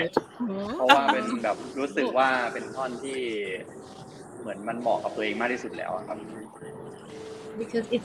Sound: continues in Thai

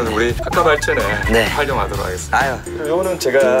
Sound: robotic reaction

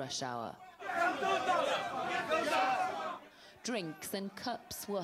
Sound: crowd yelling

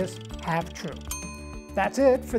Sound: meter dinging

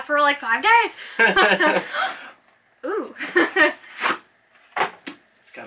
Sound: laughs

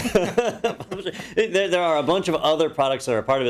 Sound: laugh

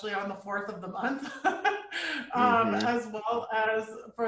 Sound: chuckling

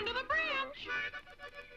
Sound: birds chirping

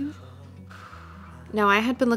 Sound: breathes out

